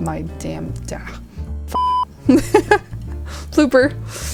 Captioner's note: laughs